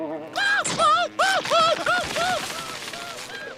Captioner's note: screaming; screaming continues